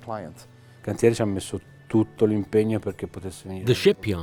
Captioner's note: speaking in foreign language